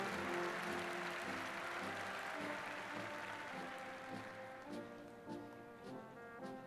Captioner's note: applause